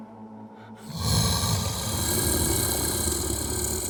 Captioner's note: growling